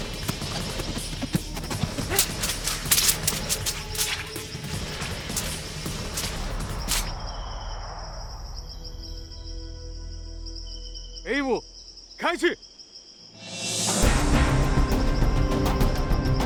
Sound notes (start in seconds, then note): 8.5 soft tense music; 11.2 monk speaking in foreign language; 13.3 suspenseful music